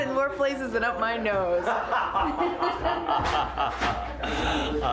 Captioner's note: laughs